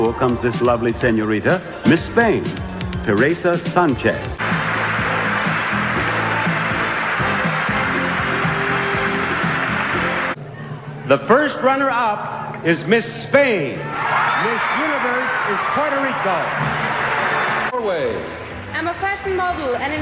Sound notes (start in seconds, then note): 4.3 crowd applauding; 5.3 upbeat music; 13.5 crowd cheering